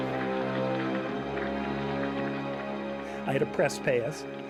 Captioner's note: applause